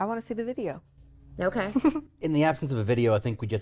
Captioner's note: laughs